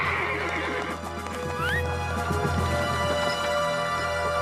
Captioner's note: revere whistles to horse